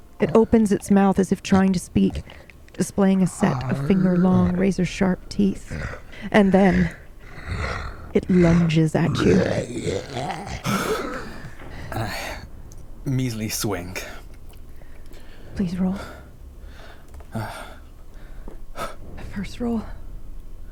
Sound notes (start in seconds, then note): 7.2 deep growl; 10.7 deep breath